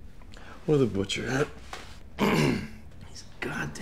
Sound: clears throat

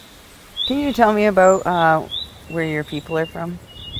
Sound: land Defender Audio Interview played on speakers

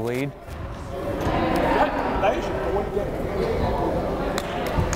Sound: crowd chattering

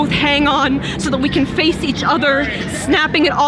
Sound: talking in background

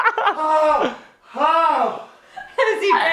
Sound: laughing; panting painfully

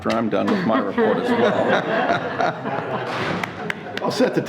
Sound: everyone laughing; someone clapping

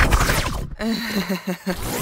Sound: laughing

